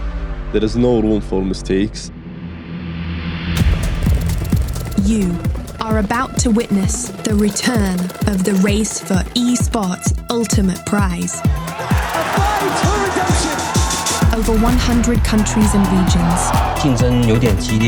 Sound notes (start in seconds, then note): 3.4 intense electronic music playing; 10.9 crowd cheering